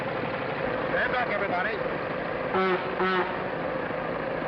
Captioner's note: horn beeps